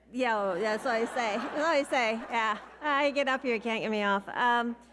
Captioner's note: audience laughing